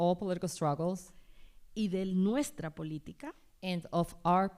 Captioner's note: speaking spanish